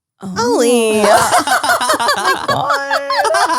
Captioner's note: all laugh